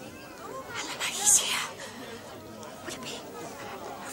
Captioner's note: whispers